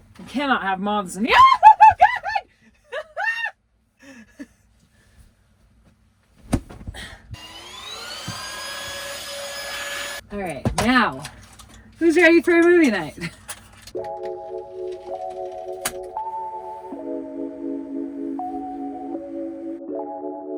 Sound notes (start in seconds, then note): 1.3 screams; 5.0 chuckles; 6.4 pillow thumps; 7.3 vacuum whirs; 13.9 smooth music